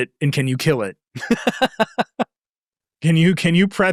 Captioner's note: laughing